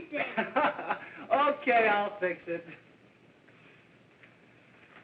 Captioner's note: laughs